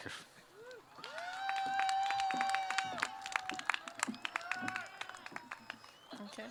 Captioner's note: applause